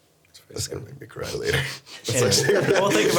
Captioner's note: laughing